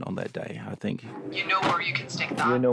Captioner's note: woman over phone